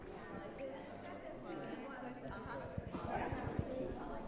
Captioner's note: guinea pig squeaking